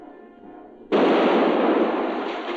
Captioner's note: cannon blasting